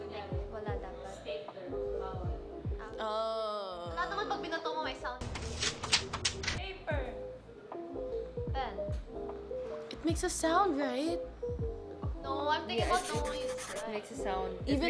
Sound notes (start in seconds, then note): 5.2 paper noises